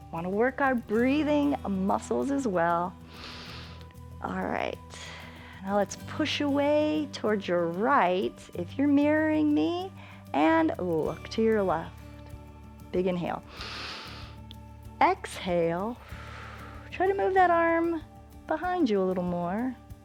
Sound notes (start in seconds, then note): 3.1 inhales; 13.4 exhales; 13.5 inhales